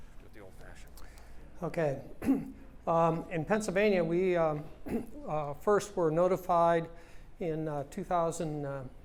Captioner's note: cough